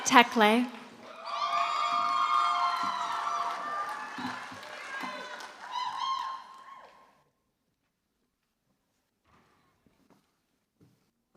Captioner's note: applause